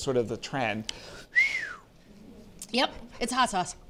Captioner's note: exhales sharply